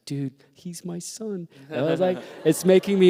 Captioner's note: laughter